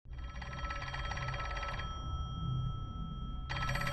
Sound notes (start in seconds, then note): 0.2 phone ringing